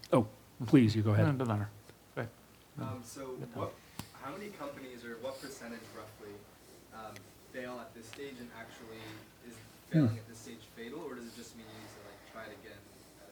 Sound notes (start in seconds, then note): 3.1 voiceover